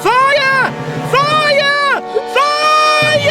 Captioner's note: panicking